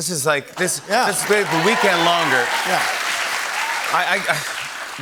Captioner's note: cheers and applause